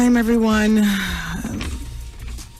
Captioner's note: sighs